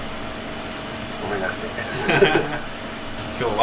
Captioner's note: laugh